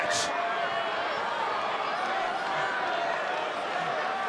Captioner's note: crowd yelling